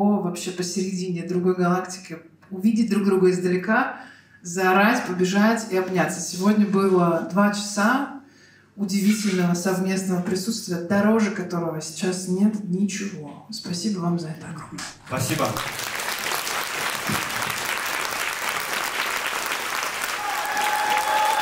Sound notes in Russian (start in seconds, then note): 15.1 зал аплодирует; 20.2 зал ликует и аплодирует